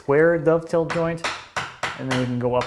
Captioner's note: mallet on chisel tapping